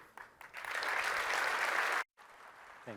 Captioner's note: applause